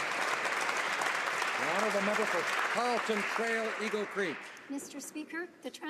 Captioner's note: applause